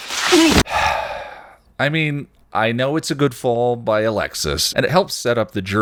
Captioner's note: sigh